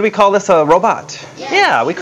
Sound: audience response

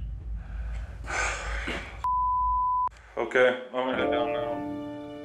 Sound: sighs

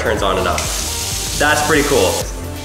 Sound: water splashing

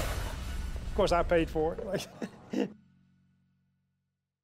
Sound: laugh

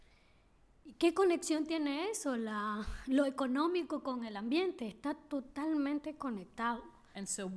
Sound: speaking spanish

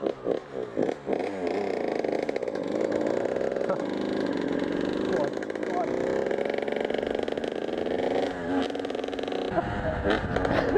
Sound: dirt bike noises

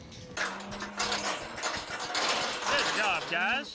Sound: gate closing

